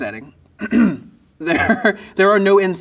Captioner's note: clears throat